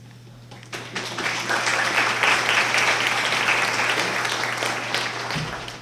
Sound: applause

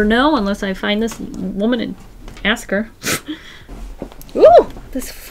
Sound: laughs

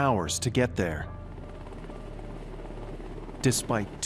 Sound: airplane engine roaring

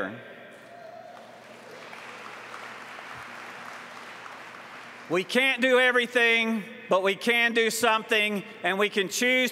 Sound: applause

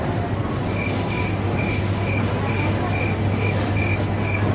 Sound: crickets chirping

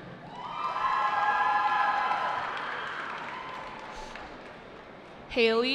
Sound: cheering

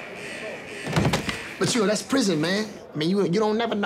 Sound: body hitting floor

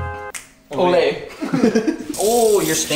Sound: laughing

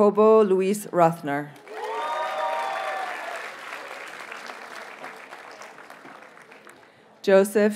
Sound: audience cheers and applauds

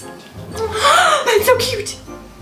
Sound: gasp

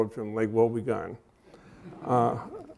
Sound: laughter

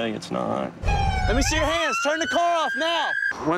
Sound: siren

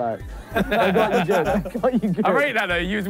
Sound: laughing

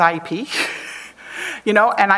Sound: chuckles

